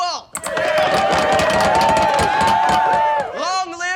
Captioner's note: cheering